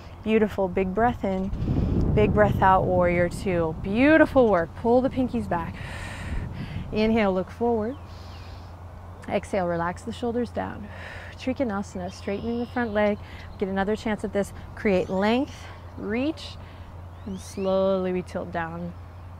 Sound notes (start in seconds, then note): 1.4 takes deep breath; 5.8 blows out breath; 5.8 takes deep breath; 10.7 blows out breath